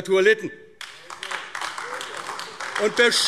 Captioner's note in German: Beifall AfD